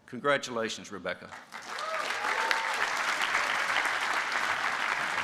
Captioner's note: applause